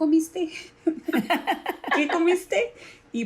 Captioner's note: laugh